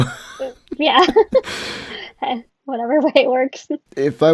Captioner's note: laughs